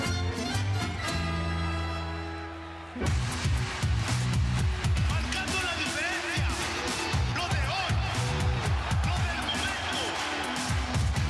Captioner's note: crowd cheering